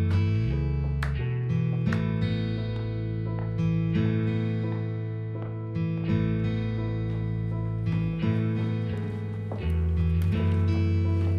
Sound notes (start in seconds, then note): 3.1 footsteps tapping